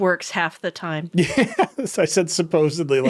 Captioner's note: laughing